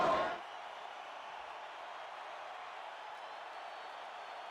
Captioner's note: crowd cheering